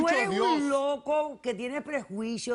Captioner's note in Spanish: Hablan al unísono